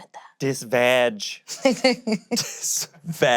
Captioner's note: laughs; laughing